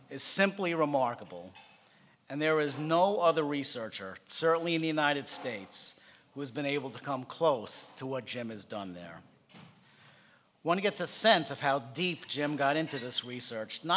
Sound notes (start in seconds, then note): none